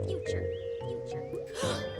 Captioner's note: gasps